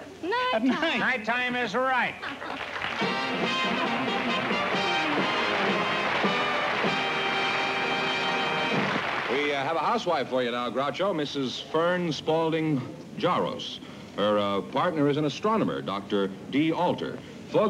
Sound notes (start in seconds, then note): 2.2 laughter